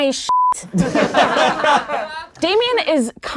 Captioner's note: laughing